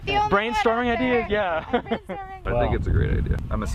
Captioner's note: laughs